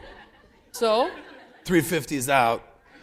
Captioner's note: laughter